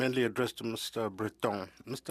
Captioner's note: speaking French